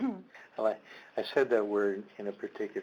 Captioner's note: chuckling